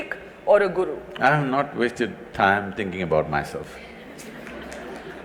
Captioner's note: laughter/Applause